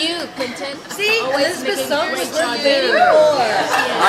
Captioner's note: all chattering